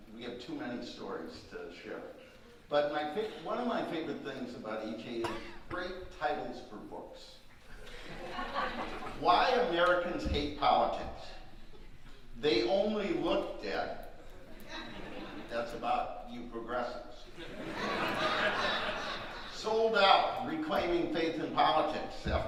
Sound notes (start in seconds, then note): 7.7 audience laughing; 17.3 audience laughing